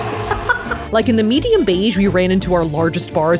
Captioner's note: laughing